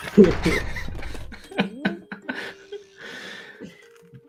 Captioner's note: laughter